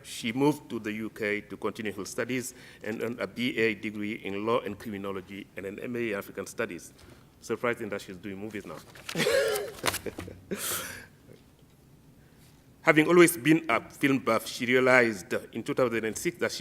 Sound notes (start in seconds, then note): 9.1 laughs